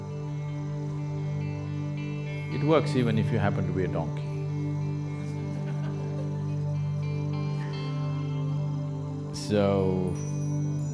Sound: few laugh

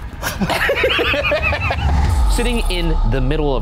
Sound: both laughing

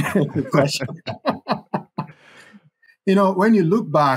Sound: both laugh

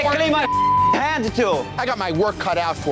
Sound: beeps

